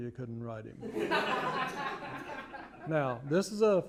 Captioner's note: laughter